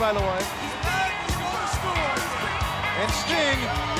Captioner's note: crowd cheering; upbeat rock music continues